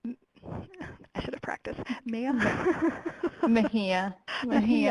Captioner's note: laughing